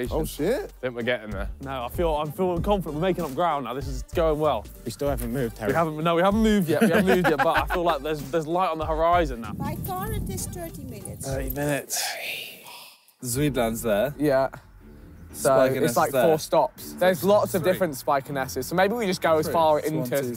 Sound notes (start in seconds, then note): 11.9 sighs